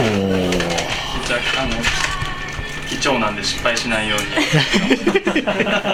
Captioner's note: laughs